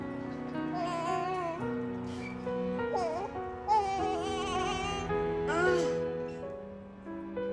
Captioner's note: baby cooing